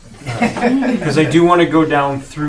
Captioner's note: all laughing